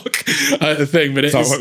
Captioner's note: laughs